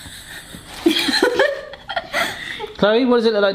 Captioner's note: laughing